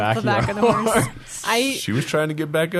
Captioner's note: laughing